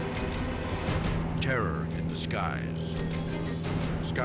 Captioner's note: dramatic music; plane humming